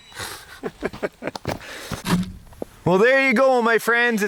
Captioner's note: laughing